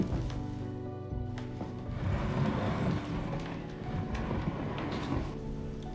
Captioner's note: the chair scrapes along the floor